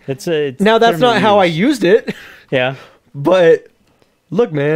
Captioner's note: laughs